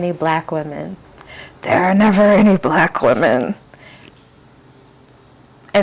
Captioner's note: whispering loudly